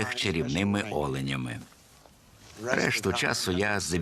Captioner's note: laughs